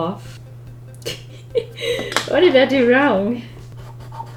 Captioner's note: laughs